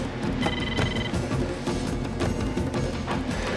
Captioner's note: phone ringing